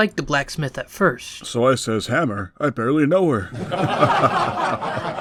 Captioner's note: laughs